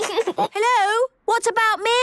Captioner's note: giggles